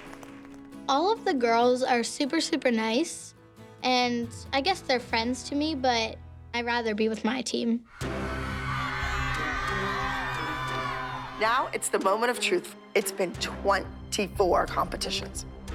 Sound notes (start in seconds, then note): 7.9 cheering; 7.9 dramatic music playing